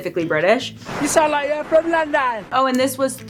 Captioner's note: in a British accent